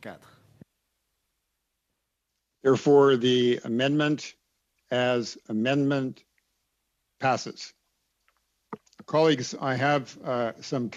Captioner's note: speaking French